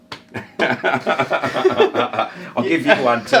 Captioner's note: laughing